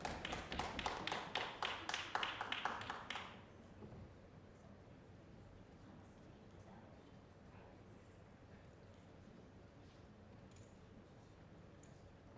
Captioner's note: some Applause